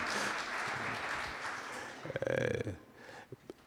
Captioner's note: laughter